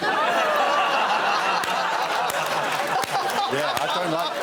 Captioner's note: laughter